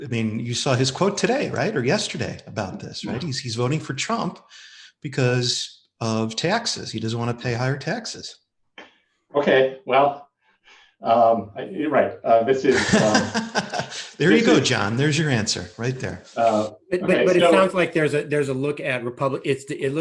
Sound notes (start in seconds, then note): 11.1 laughing